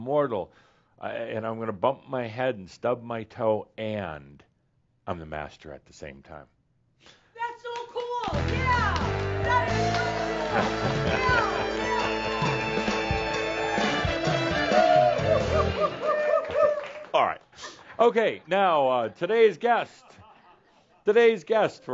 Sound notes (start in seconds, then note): 9.4 shouts; 14.5 fanfare music comes in